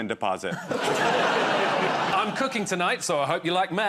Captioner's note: laughter